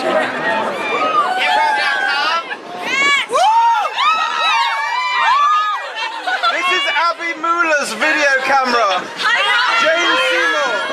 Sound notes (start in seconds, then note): 0.2 cheering; 2.8 whooping